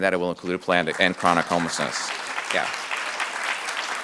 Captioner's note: audience clapping